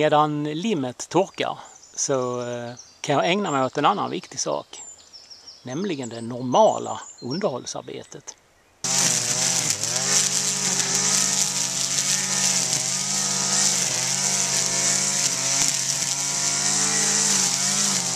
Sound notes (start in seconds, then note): 8.8 wrrrrrrrr ... wrrrrrrrr